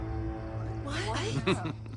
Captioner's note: chuckles